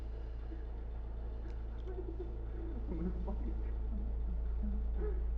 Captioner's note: crying